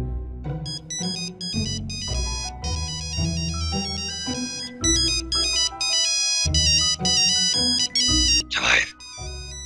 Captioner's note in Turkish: telefonçalar